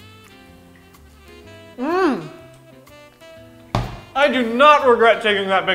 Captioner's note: happy stomp